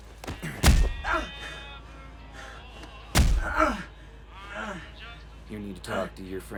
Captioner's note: grunting; thudding